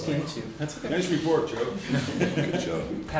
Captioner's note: laughter